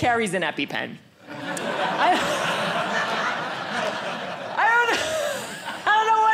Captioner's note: audience laughing